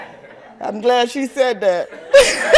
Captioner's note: laughter